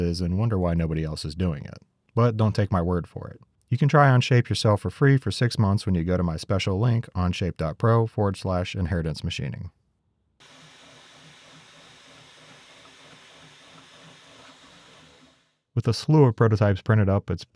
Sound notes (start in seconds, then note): 10.4 machine whirring